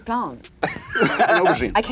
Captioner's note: laughter